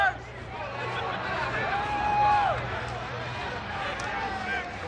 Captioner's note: audience laughs